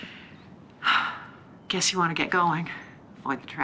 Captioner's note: sighs